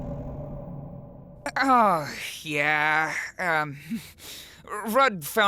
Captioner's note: nose exhale